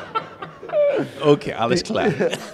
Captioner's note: laughing